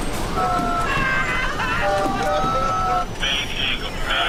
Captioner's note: passengers yelling